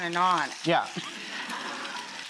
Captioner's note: audience laughs